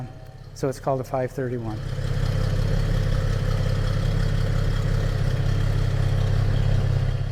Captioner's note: engine running